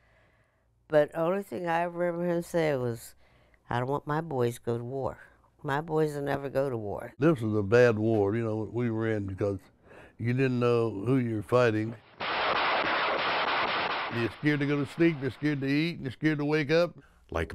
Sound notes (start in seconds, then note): 12.2 guns banging